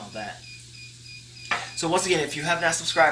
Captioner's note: pot beeping